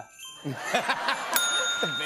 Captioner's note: laughter; bell dings